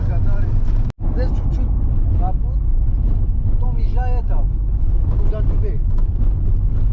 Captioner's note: small talk